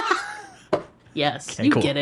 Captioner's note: laughing